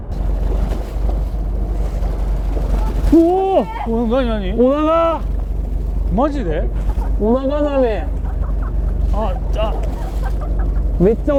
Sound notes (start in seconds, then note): 8.6 laughs